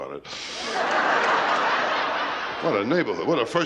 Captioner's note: laughter